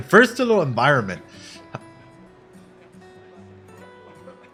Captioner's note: laughs